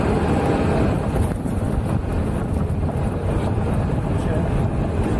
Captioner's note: aeroplane rumbling